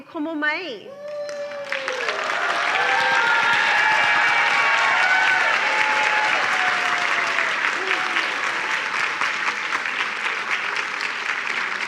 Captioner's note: cheering and applause